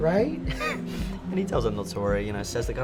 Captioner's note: laughs